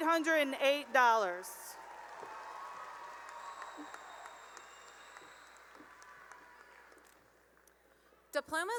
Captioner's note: cheering and applause